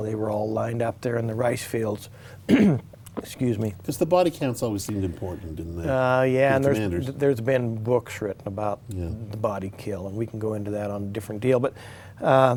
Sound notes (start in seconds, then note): 2.5 clears throat